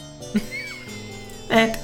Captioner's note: laughs